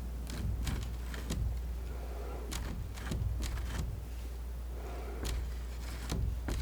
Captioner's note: tapping